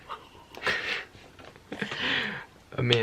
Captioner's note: both chuckling